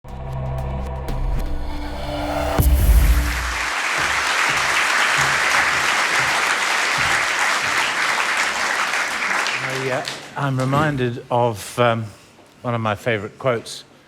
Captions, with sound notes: [ Applause ] >> I'm reminded of one of my favourite quotes,